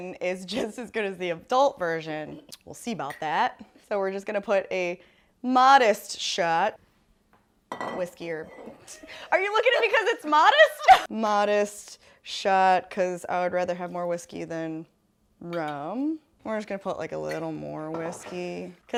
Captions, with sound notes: is just, as good, as the adult version. We'll see about that. (bottle clinks on shot glass) So, we're just going to put a modest shot. Whiskey, or, are you looking at me, 'cause it's modest? (laughing) Modest shot, 'cause I would rather, have more whiskey, than rum. We're just gonna put a little more whiskey.